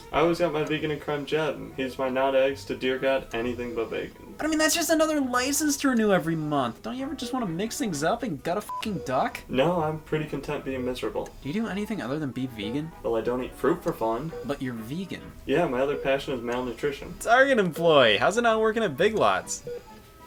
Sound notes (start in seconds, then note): 8.6 beep